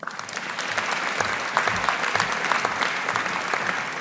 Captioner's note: audience applauding